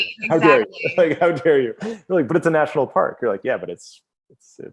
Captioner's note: laughs